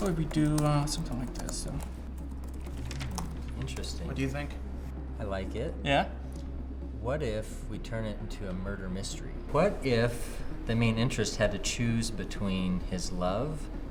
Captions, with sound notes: what if we do something like this? (typing) Interesting. What do you think? I like it. Yeah? What if we turn it into a murder mystery? What if the main interest had to choose between his love